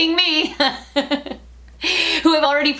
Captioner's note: laughter